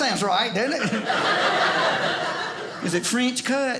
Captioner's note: audience laughing